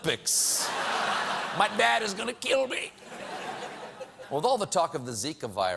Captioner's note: laughter